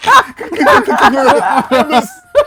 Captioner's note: laughter